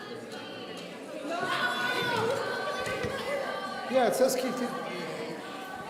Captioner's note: people shouting from the audience